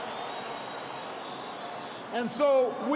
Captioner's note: applause